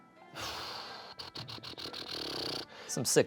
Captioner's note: exhales